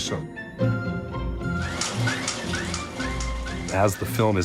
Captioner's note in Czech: chrastí film